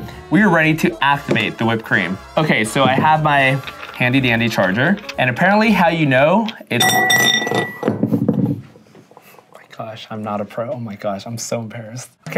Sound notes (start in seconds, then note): 6.7 bowl clanging